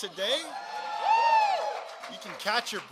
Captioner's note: applause